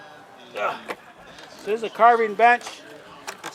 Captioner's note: grunts